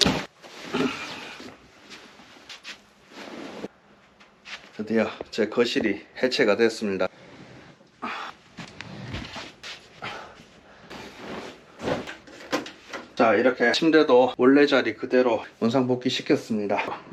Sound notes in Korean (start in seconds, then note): 8.0 끙차